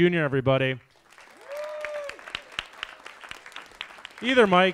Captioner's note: audience applauds